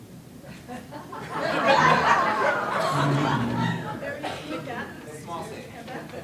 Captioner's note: laughter